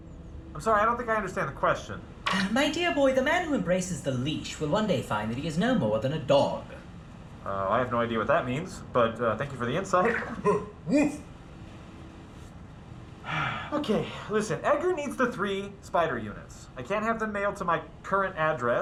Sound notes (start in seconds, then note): 10.0 guffaw; 13.2 labored sigh